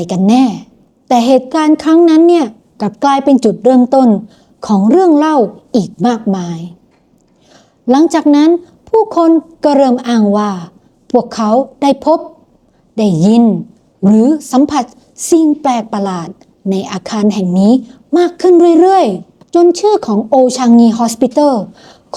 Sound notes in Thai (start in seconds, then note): 7.3 เสียงสูดหายใจ